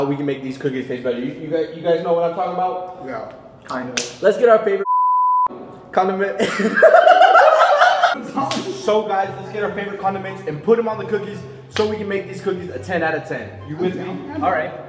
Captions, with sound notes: Let's get our favorite c******. Condiments... (laughing) Guys, let's get our favorite condiments and put it on the cookie. So we can make these cookies a 10/10.